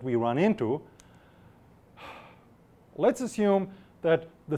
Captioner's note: exhales sharply